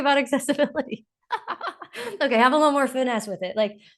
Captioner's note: laughs